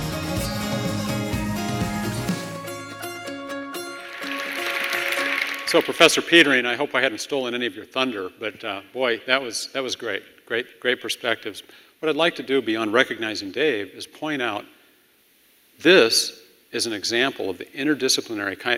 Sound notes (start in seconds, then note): 3.9 applause